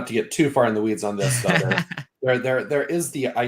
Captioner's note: laughing